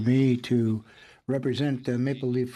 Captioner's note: speaking French